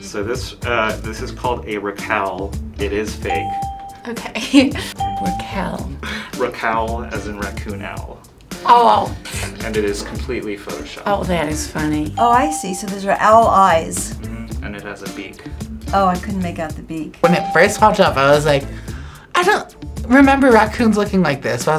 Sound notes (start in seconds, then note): 4.4 laughs; 4.9 bell rings